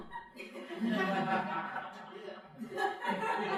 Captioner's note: crowd laughing